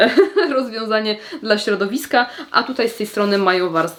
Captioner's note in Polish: śmiech